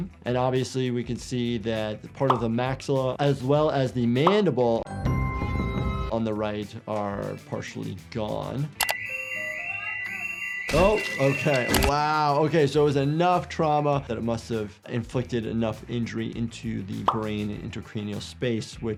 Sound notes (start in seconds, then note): 8.8 alarm blares